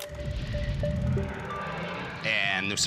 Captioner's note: roaring, projector flickering